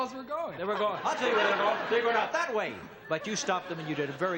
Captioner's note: laughs